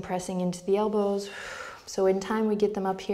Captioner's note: exhales